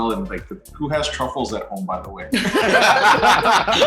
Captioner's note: laughs